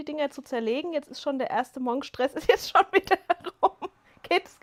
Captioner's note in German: gelächter